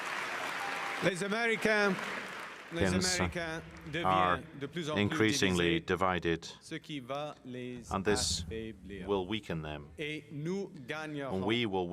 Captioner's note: applause